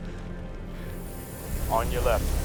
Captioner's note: portals whoosh